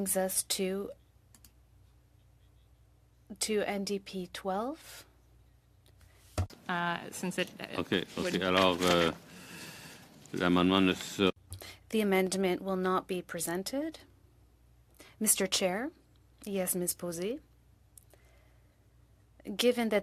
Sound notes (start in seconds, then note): 0.1 speaking French; 14.5 speaking French